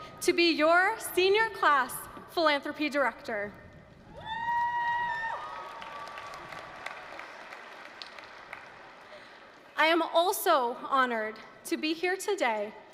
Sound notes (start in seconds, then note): 4.1 applause, cheering